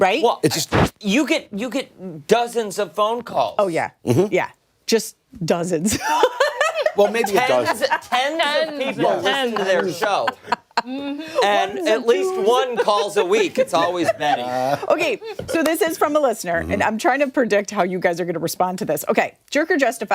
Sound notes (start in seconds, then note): 12.3 laughter